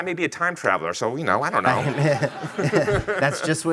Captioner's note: laughing